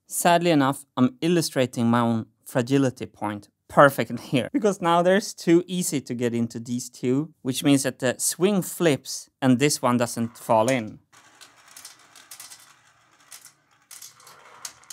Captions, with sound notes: Sadly enough, I'm illustrating my own fragility point perfectly here, because now there's too easy to get into these two, which means that the swing flips and this one doesn't fall in. [marbles rolling]